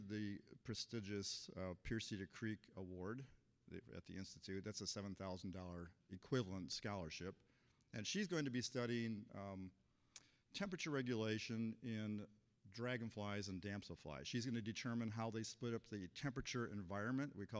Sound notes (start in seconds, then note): none